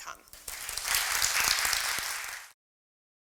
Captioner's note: applause